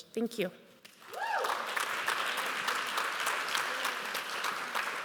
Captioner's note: applause